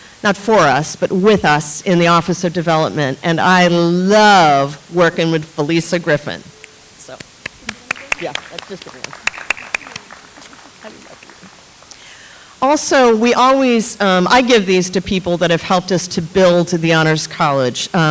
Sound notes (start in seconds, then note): 8.8 audience applauds